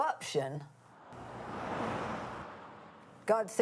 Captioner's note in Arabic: هدير محرك السيارة